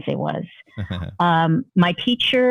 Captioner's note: laughter